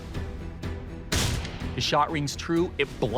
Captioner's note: gun firing